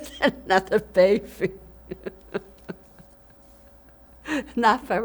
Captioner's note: laughing